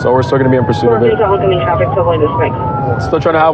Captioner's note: radio